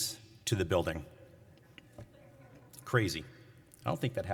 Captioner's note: laughter